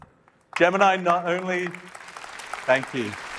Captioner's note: applause